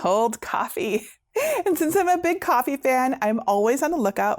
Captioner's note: laughing